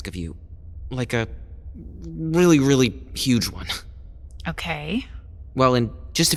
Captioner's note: hesitant